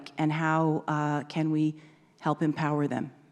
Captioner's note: none